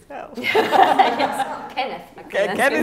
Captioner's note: laughing